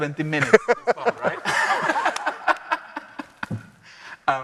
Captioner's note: all laughing